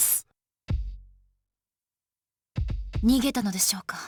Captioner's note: silence